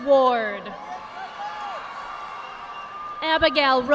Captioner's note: audience applauding